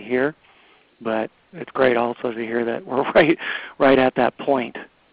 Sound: laughs

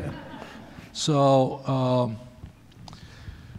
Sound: laughter

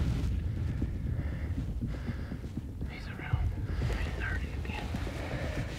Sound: whispering

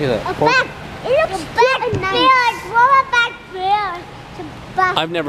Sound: kids clammoring

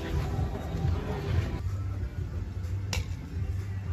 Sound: glasses clink

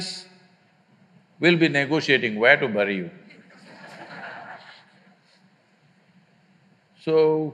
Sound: laughter

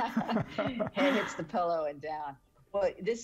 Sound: everyone laughing

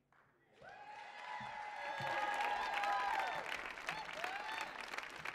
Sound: audience cheering and applauding

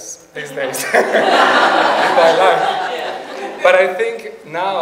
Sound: audience laughs

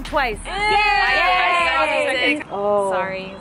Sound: girls yell together

